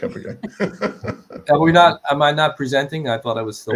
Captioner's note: laughs